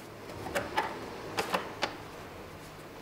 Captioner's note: soft clatter